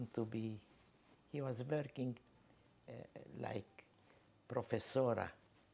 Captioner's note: spanish